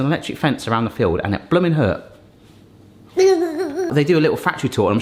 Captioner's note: gurgling